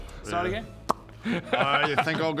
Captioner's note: spawn-in pop